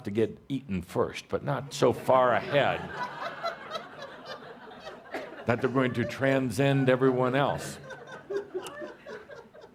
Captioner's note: laughter